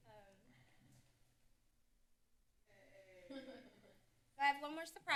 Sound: background chatter; laughter

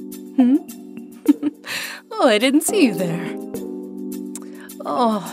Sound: chuckle

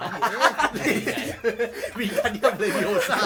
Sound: laughs

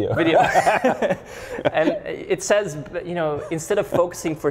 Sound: laughs

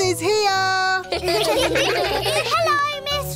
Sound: children giggle

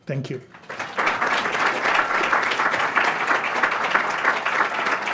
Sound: audience applauds

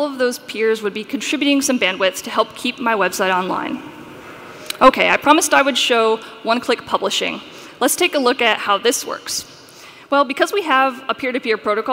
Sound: sound feed distorted

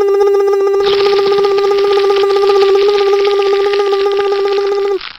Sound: hydraulics sound; crunching

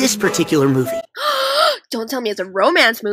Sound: gasp

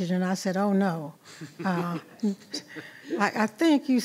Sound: board laughing

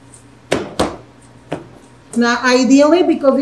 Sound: dough thuds

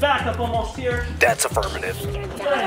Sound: man On phone

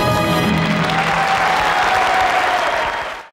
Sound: audience cheering

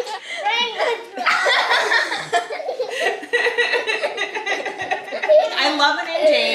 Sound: family laughing

